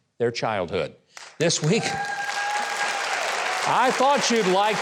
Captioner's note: audience applauds